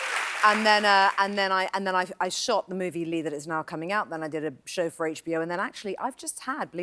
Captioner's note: cheers and applause